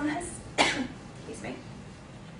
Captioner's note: coughing